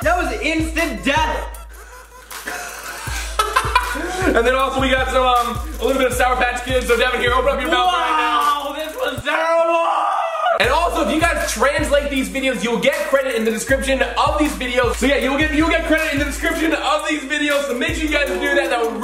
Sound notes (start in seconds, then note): 1.4 laughing